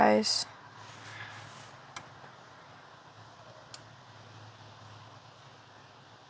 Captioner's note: footsteps